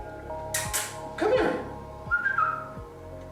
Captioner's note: smooches; whistles